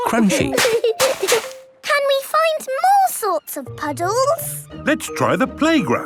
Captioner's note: laughter